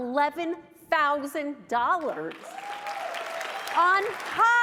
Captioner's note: applause and cheering